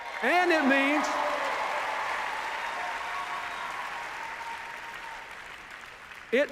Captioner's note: cheers, applause